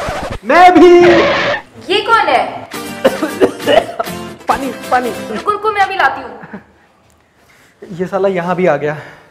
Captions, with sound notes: Even me too! Who is she? *Cough Cough* Can I have water? Wait Let me just bring it for you This stupid came here as well